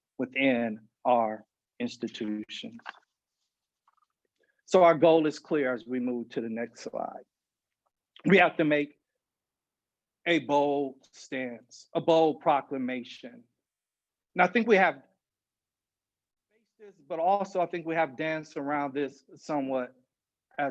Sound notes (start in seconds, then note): 16.0 audio cuts out